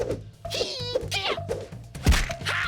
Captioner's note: none